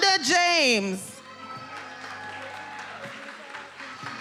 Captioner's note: attendees cheering and applauding